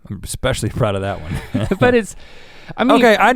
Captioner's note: chuckles